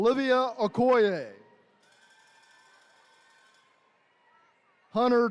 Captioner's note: attendees cheering